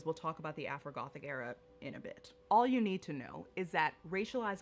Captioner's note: none